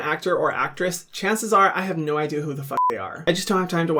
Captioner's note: beeping